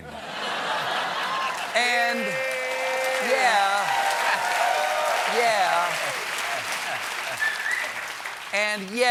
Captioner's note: laughter; cheers and applause